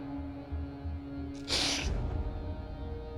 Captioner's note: sniffles